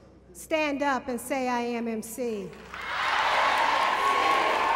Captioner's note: applause